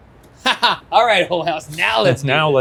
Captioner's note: laughs